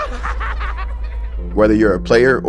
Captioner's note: Damar laughing